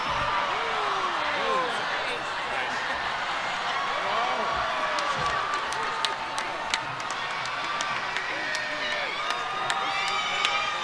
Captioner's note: cheering